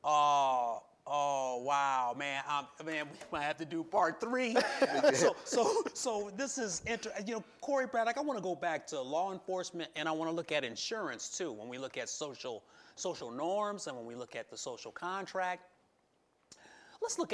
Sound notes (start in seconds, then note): 4.5 laughing